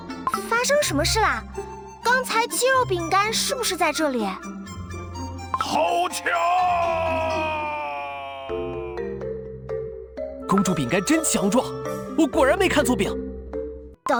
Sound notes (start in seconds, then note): 5.4 trailing voice